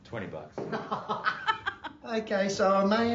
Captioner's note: laughing